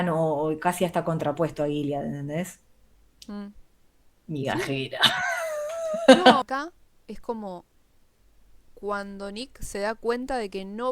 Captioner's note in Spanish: risas